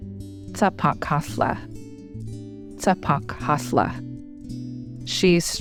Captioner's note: woman speaking in foreign language